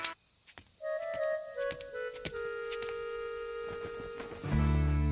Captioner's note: approaching footsteps